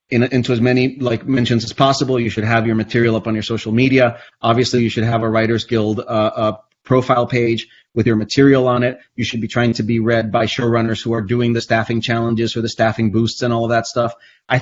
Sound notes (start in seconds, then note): none